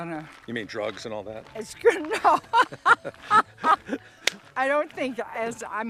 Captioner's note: laughing